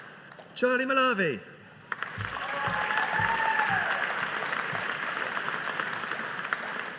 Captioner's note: audience applauding